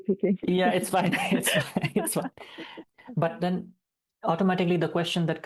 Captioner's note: both laughing